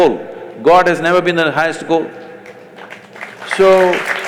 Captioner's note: applause